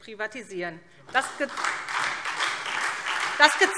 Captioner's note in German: Beifall SPD und DIE LINKE